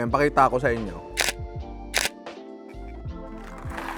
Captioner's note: camera shutter clicks